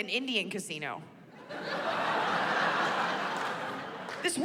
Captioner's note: laughter